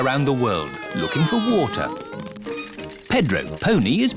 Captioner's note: all mimicking aeroplane sounds